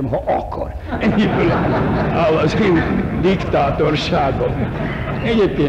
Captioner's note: laughter